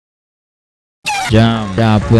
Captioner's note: scream